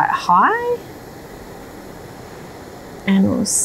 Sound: whooshing sound

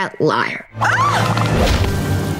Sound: shrieking

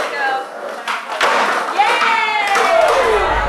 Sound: skateboard crashes

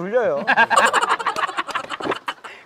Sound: laughing hysterically

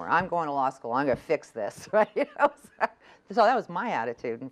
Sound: laughs

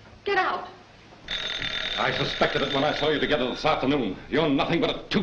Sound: phone rings

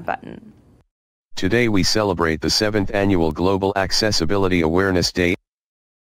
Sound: read Aloud Voice

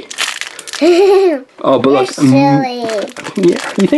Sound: laughs

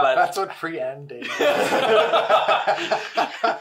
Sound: laughs

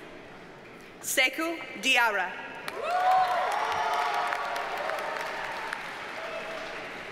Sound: audience cheers and applauds

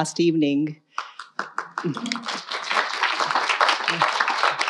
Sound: audience applauding

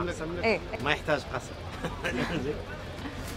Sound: laughs

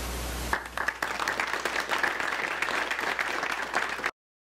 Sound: applause

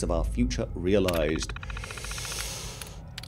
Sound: heavy breathing

